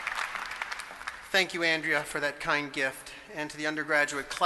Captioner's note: applause